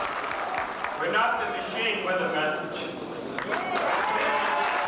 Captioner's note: cheers